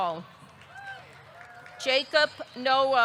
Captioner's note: audience clapping; audience cheering